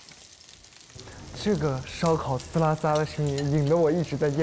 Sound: the sizzling sound of the barbecue

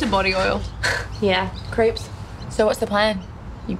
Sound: chuckles

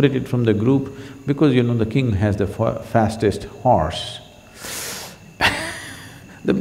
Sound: laughs

